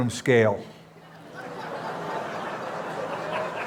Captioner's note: laughter